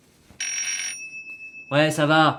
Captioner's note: doorbell